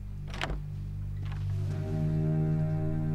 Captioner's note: door opens